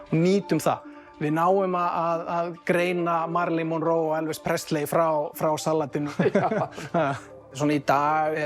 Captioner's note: laughing